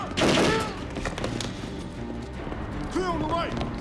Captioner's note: gangsters yelling; gunfire clattering